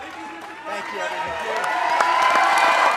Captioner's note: applause